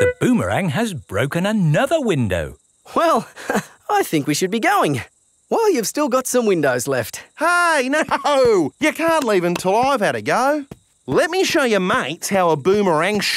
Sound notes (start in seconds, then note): 7.8 laughing